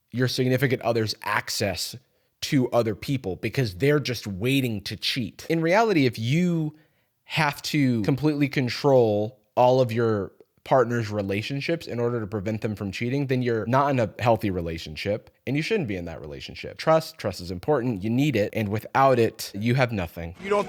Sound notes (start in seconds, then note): none